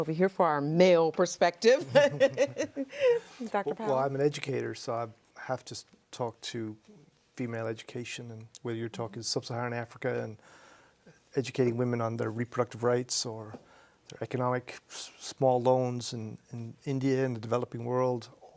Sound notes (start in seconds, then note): 1.8 laughs